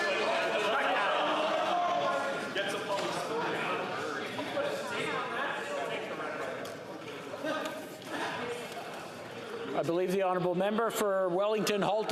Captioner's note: yelling